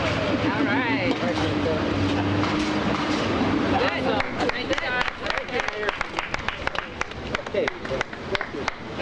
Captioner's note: applause